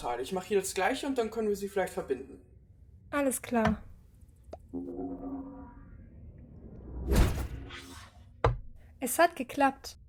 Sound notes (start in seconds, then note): 4.6 gate opens